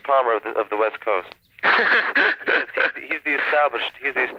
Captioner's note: laughter